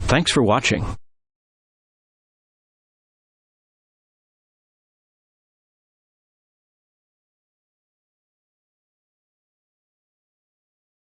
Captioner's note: silence